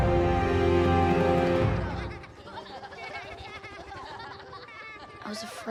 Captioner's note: laughing